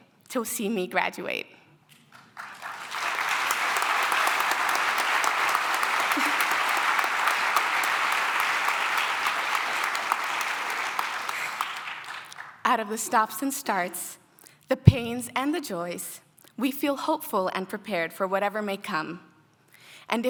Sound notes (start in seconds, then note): 2.0 applause